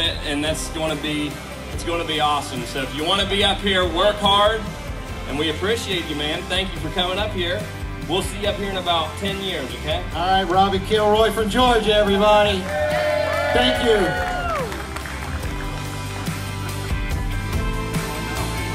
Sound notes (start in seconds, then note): 12.4 crowd cheering; 14.5 inspiring techno music